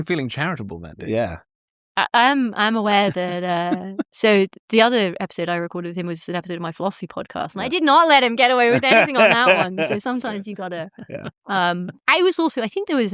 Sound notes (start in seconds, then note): 3.0 laughter; 8.6 laughter